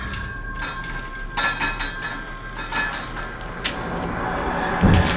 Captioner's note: device clanking